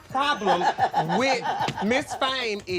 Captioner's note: laughs